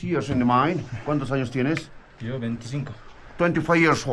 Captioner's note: speak in foreign language